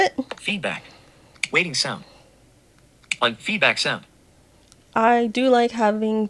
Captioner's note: TalkBack: Feedback. Waiting sound. On feedback sound